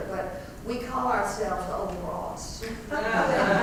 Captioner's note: laugh